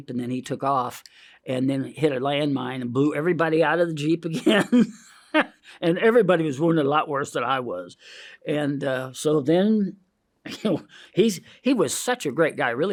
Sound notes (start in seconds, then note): 4.3 laughs; 8.0 inhales